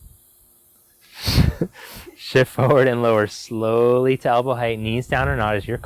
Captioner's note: laughing